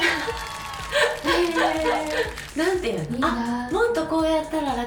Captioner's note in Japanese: 笑い